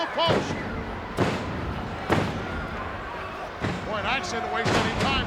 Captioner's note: ground slamming